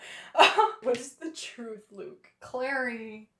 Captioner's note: laughter